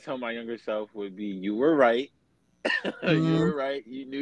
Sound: chuckles

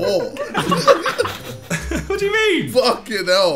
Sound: everyone laughing

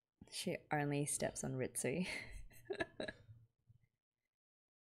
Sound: laughs

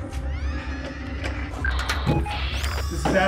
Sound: radio static

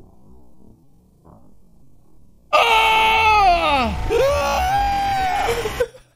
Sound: shrieks

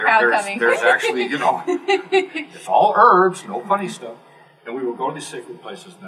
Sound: laugh

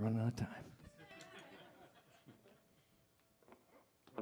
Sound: risas; laughing

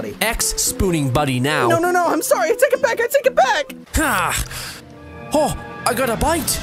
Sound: grunt

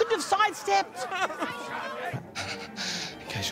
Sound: crying

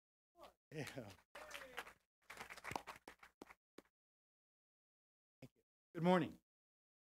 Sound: applause

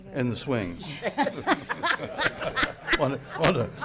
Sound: laughing

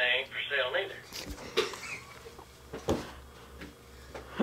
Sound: laughing

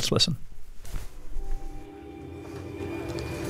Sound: soundbite of tv show, "hello tomorrow!"

